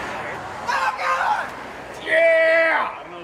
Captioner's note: guy yells out of car window